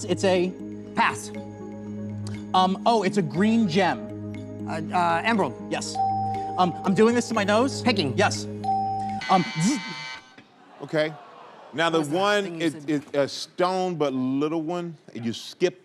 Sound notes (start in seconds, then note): 8.8 buzzer; 9.2 buzzes